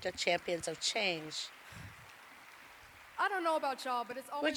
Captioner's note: applause